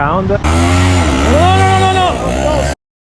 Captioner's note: rickshaw engine